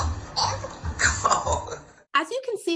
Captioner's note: dad laughs